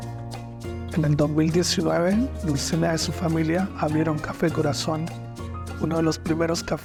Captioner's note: narrator speaking in foreign language